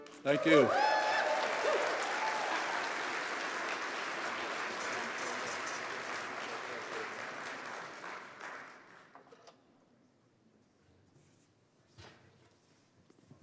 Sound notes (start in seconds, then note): 3.2 applause